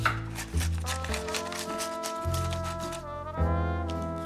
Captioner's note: paper tearing